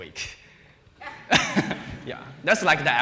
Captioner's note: laughs; laughter